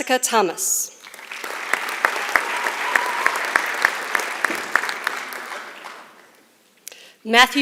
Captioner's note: applause